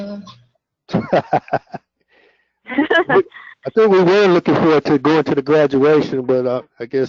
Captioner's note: laugh